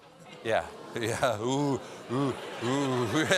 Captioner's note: audience reacts